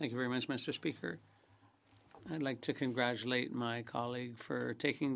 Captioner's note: speaking French